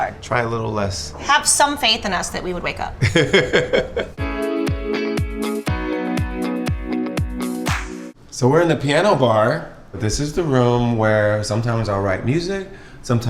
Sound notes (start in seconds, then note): 3.0 laughs; 4.2 upbeat pop music